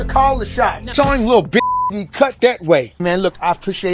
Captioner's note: beep